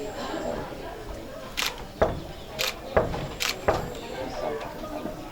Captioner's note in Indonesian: mengetuk pintu